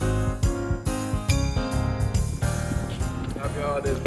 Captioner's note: bell dinging